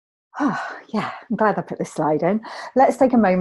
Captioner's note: sighs